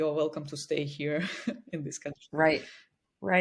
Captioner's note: chuckles